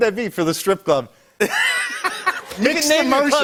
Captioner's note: laughter